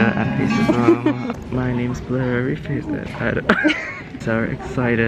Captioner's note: laughs; laughs